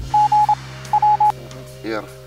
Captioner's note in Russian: азбука морзе